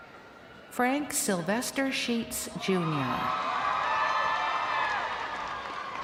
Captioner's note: crowd cheering